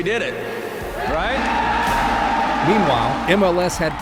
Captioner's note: cheers